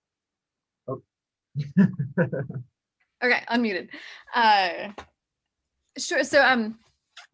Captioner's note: laughs